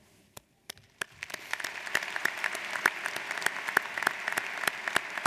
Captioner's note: audience applauds